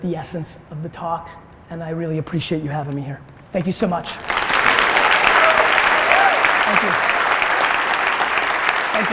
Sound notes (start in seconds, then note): 4.1 applause